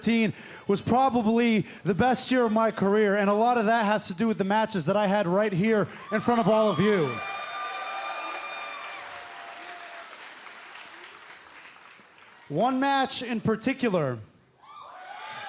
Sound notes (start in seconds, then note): 10.6 crowd cheering